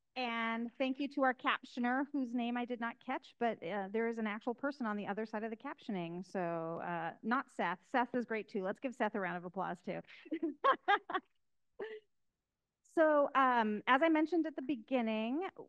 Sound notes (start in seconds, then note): 10.3 host laughing